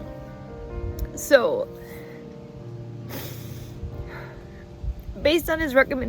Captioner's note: sigh